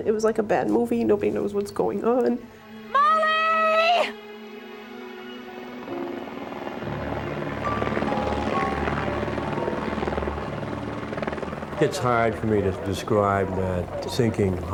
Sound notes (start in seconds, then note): 2.8 yelling; 6.7 helicopter sound